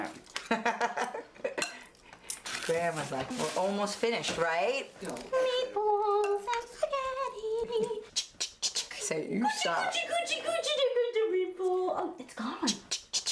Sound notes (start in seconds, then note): 0.9 laughing; 8.2 clicking tongue